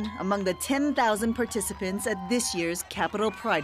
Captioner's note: cheering